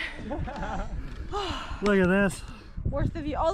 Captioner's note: laughs